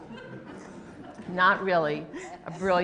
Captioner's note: laughter